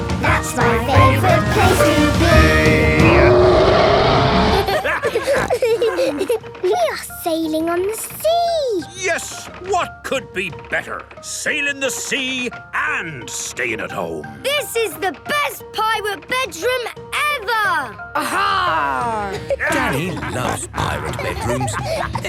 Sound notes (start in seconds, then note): 3.2 roaring; 4.4 laughter; 5.0 snorting; 19.3 laughter